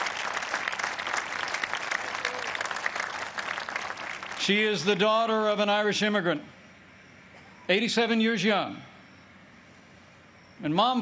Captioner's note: applause